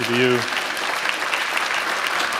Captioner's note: applause